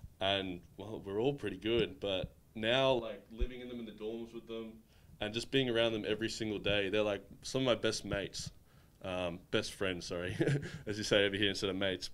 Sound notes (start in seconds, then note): 10.3 chuckling